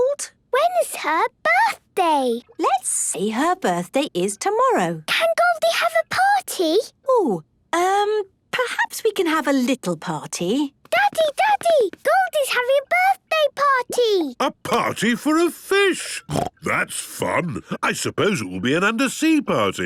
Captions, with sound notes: - When's her birthday? - Let's say her birthday is tomorrow. - Can Goldie have a party? - Oh. Um, perhaps we can have a little party. - Daddy, Daddy, Goldie's having a birthday party! - A party for a fish! (snorting) That's fun. I suppose it will be an undersea party,